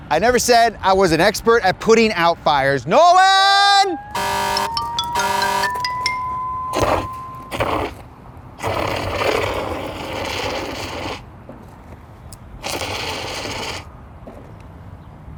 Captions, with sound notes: I never said I was an expert at putting out fires, Nolan! (siren wailing) (extinguisher frothing)